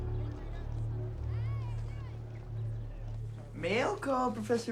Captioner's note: students chattering